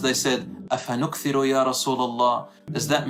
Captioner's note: Arabic